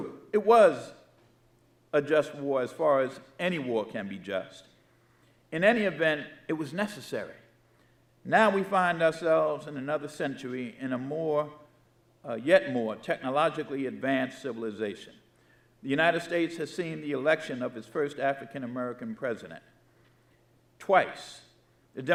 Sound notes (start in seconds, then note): none